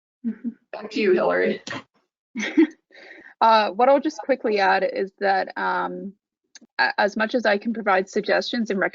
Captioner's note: laughs